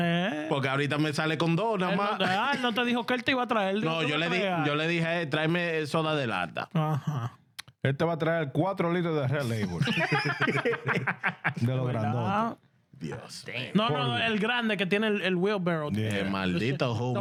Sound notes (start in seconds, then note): 14.0 speaking In Foreign Language